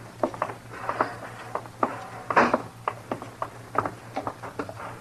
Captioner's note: footsteps